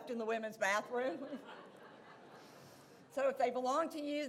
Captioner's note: audience laughs